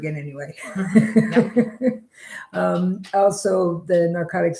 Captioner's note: laughing